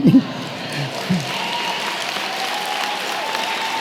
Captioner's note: applause